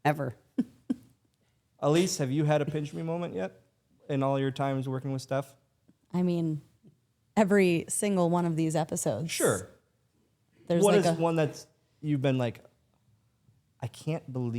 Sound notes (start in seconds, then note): 2.7 Stephanie laughs